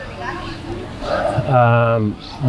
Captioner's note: sighing